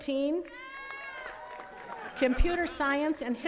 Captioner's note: attendees cheering and clapping